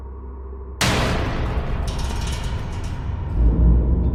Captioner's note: loud bang